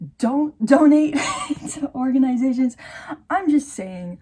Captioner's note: wheeze